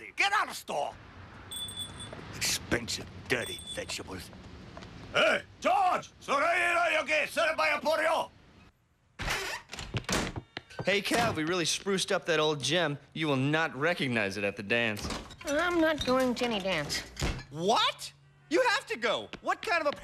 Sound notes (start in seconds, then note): 5.2 yelling in foreign language